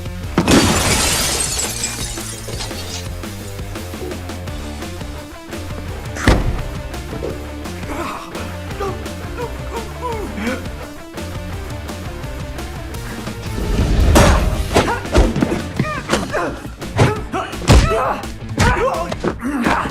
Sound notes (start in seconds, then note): 6.2 thuds; 6.2 groaning; 14.1 all grunting; 15.6 The Bishop grunting; 16.2 Booth groans